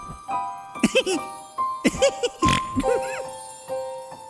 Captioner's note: excited giggling; snorting